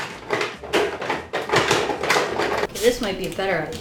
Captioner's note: clattering in the background